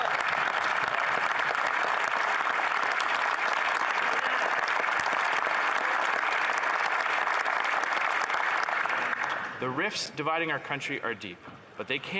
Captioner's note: some Applause